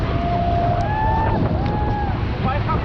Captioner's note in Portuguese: gritos